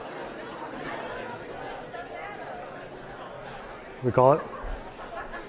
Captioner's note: students talking